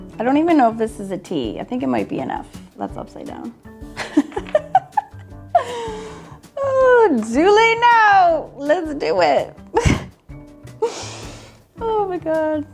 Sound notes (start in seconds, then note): 4.4 laughing; 9.7 laughs